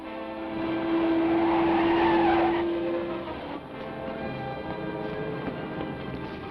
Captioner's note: dramatic orchestral music; engine roars; tires squeal